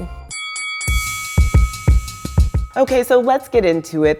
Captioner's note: bell dings